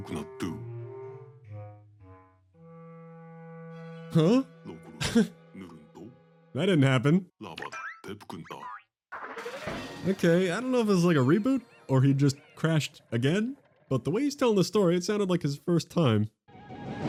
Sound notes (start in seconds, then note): 4.7 laughs